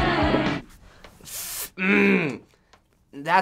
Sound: frustrated growl

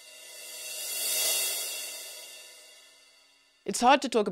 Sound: cross-fade whooshes

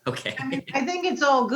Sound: laughs

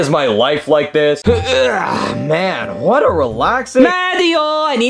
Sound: grunts

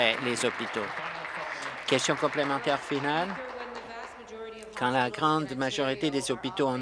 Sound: applause

